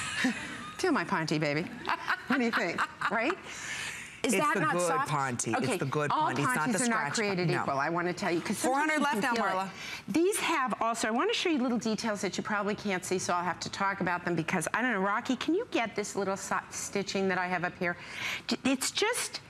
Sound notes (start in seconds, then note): 5.9 laughter